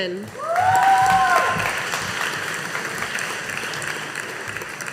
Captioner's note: audience applauding